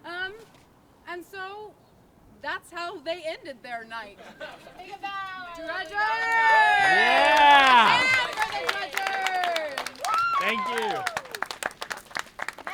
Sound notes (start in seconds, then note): 4.0 laughs; 5.9 audience cheers